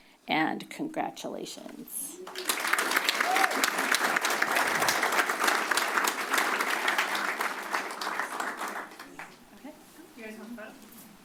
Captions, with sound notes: And congratulations. [applause]